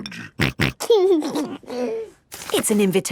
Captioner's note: snorting and giggling